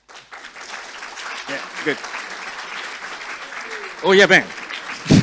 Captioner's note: audience applauds